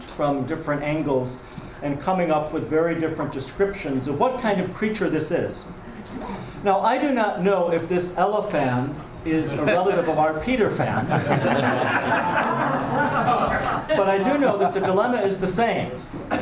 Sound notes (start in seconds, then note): 10.7 audience laughs